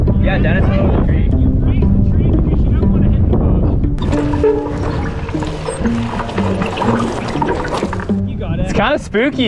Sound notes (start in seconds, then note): 3.9 creaking; 7.5 ominous instrumental music